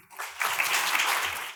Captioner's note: audience applauds